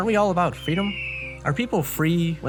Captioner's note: eagle screeching